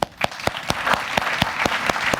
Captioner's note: applause